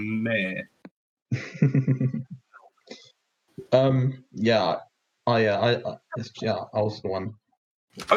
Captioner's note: chuckles